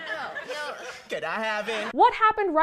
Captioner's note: sniffs